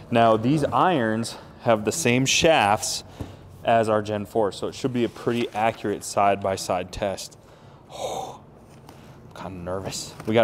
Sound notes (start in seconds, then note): 7.4 breathing heavily